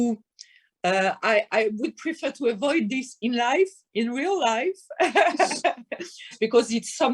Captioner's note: laughing